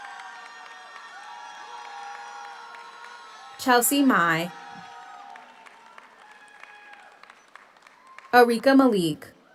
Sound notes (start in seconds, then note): 0.0 audience cheers; 0.0 audience applauds; 5.1 audience cheers